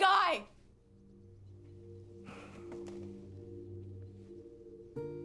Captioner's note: sighs